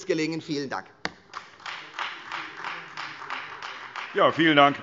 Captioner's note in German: Beifall Freie Demokraten